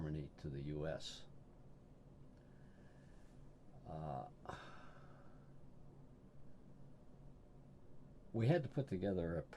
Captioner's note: sighs